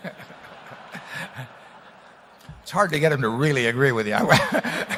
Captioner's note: laughter